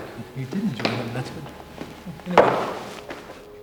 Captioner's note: car horn honking